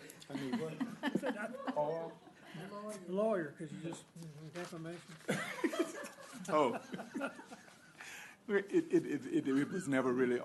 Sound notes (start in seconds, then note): 0.0 laughter; 5.2 laughter